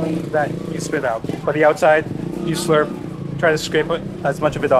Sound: motor bike roars

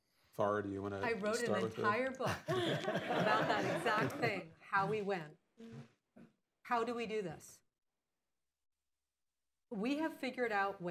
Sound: laughter

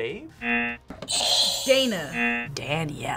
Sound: buzzer rings

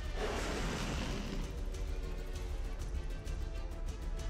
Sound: gun scraping

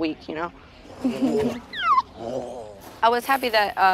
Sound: baby laughs

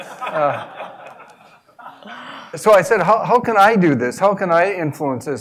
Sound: laugh

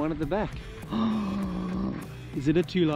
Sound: gasps

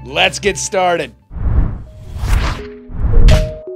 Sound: swoosh

